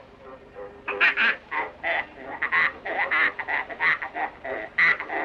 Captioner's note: pig oinking rhythmically